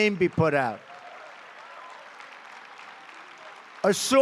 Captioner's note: applause